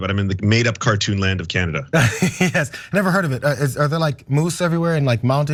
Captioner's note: laugh